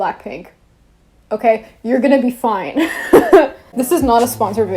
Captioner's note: laughs